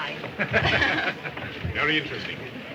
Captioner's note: group laughs